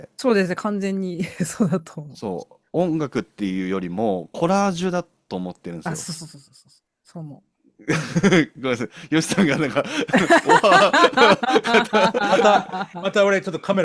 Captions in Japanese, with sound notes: そうですね。完全にそうだと思って。 そう。音楽っていうよりもコラージュだと思ってるんですよ。あ、そうそう。 そう、そう、そう、そう。そう思う。 ごめんなさい。よしさんがなんかまたまた俺ちょっとカメラオフにしとこ。 [笑い]